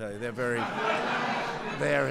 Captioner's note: laughter